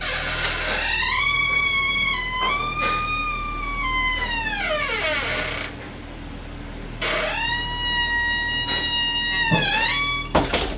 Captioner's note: the doors in opening and creaking